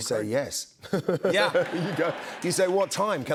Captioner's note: laughter